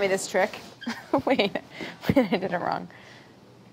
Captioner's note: laughing